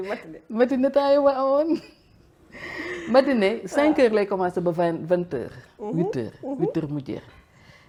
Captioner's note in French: rires